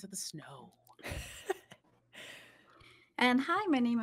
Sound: laughs

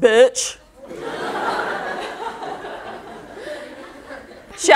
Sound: audience laughter

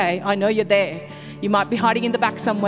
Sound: none

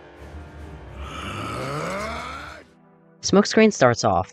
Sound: growls in frustration

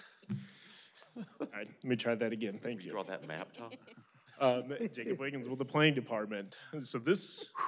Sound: laughter

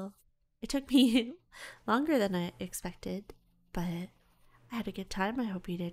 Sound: giggles

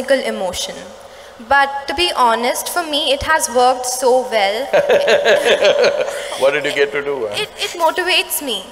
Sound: laughs

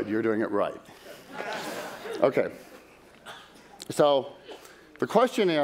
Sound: laughter

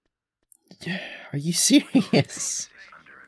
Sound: sighs; laughing

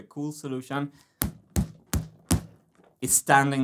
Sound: tap x4

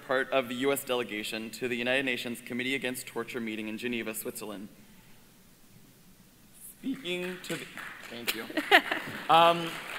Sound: applause

